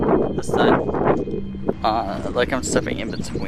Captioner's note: wind blowing